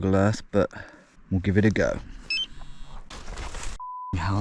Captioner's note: GPS beeps